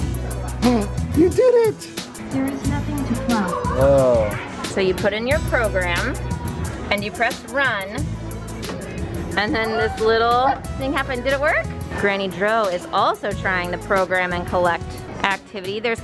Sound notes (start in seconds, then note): 0.6 gasps